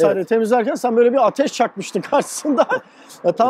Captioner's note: laughings